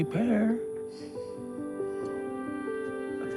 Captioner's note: sighs